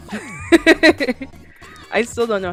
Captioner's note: laughs